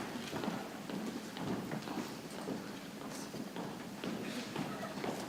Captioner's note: people chattering softly